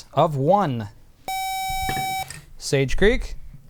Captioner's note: buzzer